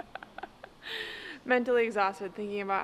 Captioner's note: laughing